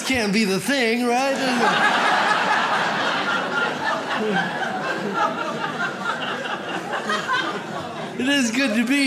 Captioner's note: audience laughs